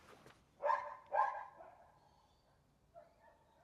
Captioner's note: woof, woof, ruff, whine